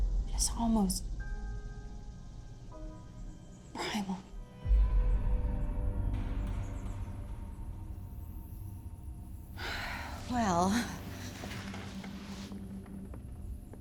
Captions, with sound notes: it's almost primal. (tense music) (sighs deeply) Well,